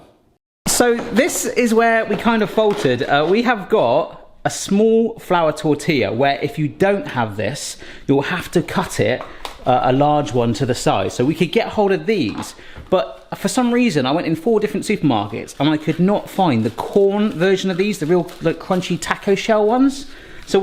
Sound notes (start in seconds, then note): none